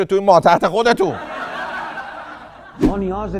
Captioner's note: laughter